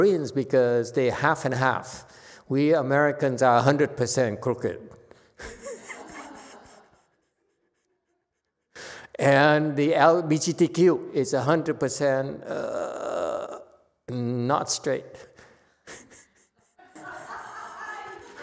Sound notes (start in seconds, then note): 5.4 laughs; 10.5 laughs, audience laughs; 15.8 laughs